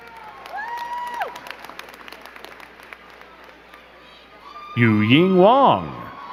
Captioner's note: crowd cheering and clapping